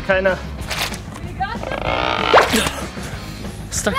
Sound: grunting

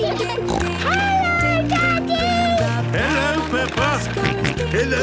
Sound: snorting; George snorting

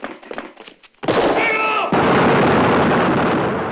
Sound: gunshots

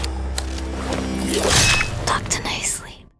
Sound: spooky music; blade slashing

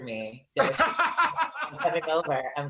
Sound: laughs

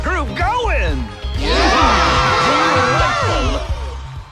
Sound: cheers

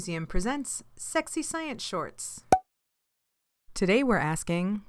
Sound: pop

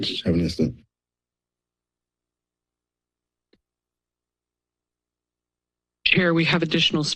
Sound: silence

